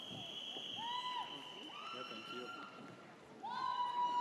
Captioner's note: audience cheers